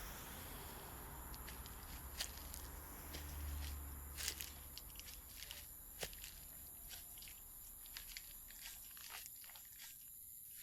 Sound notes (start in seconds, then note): 1.3 footsteps Approaching